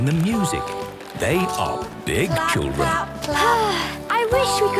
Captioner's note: Belinda sighing